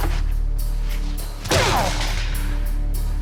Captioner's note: grunting